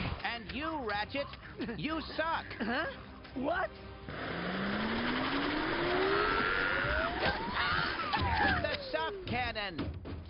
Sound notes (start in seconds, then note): 4.0 vacuum whirring